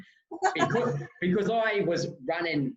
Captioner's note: laughing loudly